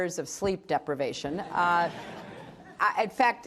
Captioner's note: laughter